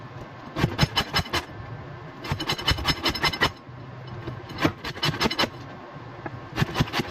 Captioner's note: grate grate grate grate grate; grate grate